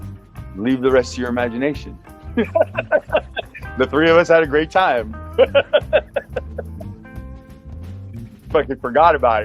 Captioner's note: laugh